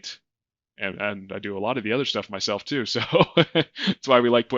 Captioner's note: laughing